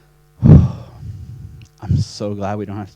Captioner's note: sighs